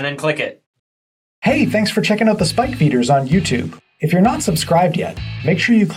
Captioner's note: voiceover